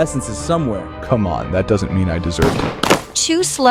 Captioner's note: bang!